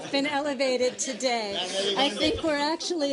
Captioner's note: laughter